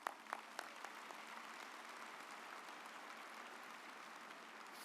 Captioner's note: audience applauds